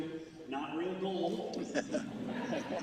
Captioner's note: laughter